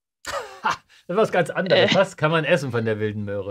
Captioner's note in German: lachen